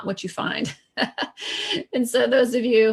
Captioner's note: laughs